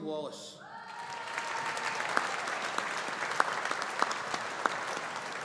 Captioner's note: audience applauding